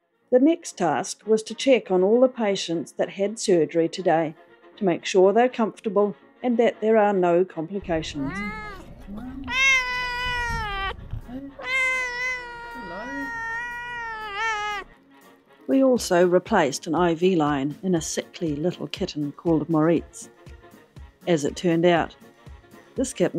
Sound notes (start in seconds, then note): 3.8 jazzy music; 11.6 loud meow